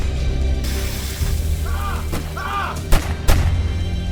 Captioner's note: hot iron sizzling; outlaw shrieking; guns firing; dramatic orchestral music